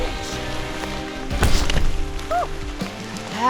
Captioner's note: doof